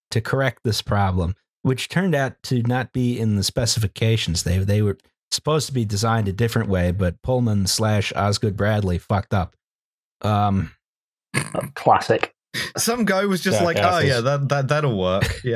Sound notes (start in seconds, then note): 11.6 snorts